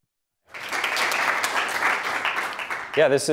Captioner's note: students applauding